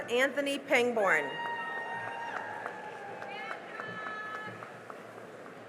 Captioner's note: cheering and applause